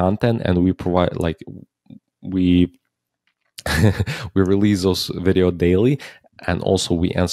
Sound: chuckles

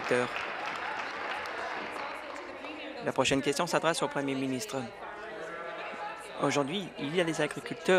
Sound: applause

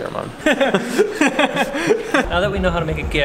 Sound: they laugh

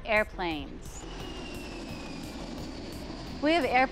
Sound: airplane taking off

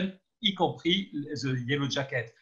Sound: speaking in foreign language

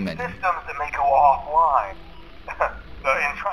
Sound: chuckles

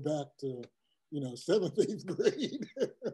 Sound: laugh

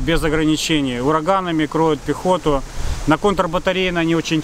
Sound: russian; Ukrainian

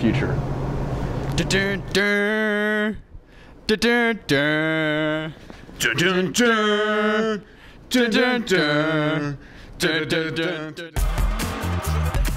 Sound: humming

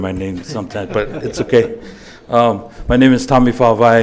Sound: laughing

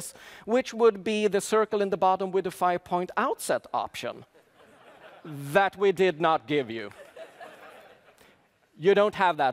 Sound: laughter

